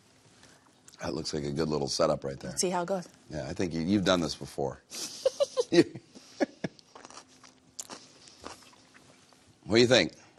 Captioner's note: laughter